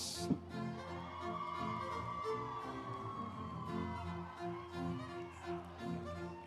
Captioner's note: instrumental music; audience cheering